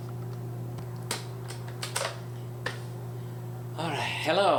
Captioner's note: tape recorder clicking